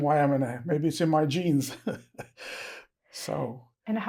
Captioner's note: laughing